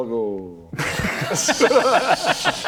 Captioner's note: laughs